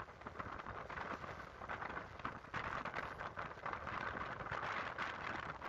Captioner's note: sound of wind